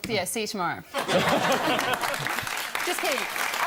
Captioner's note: audience laughs and claps